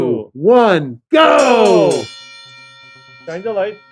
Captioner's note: bell ringing